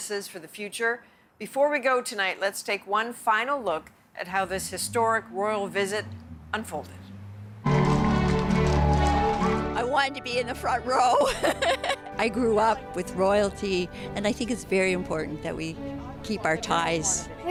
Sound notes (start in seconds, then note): 10.0 cheers and Applause